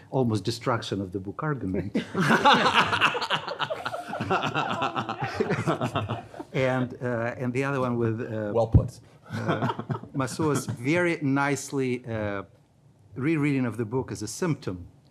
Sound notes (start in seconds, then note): 2.0 panel laughing; 9.3 laughs